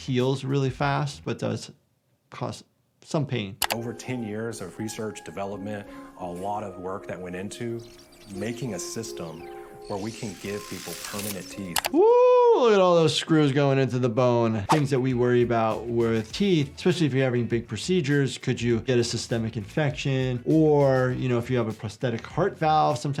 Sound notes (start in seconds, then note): 3.6 mouse clicking; 9.8 drills whirring